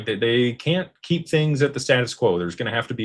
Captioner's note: none